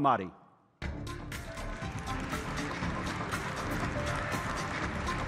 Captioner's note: applause